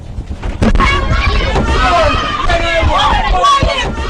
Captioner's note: screaming